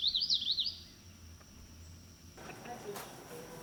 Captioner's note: birds chirp